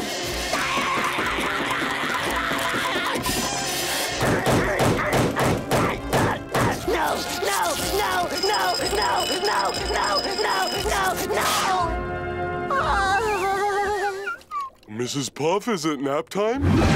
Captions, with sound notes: [groaning] [groaning] No, no, no, no, no, no, no, no, no, no. Mrs. Puff, is it nap time?